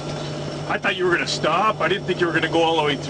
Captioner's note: voiceover